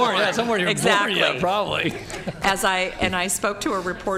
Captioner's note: laughter